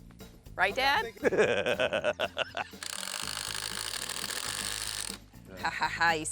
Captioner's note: laughs